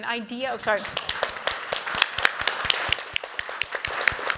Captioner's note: applause